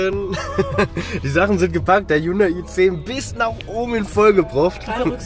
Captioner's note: car